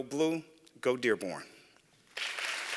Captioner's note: applause